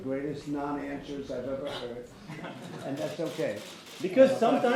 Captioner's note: laughter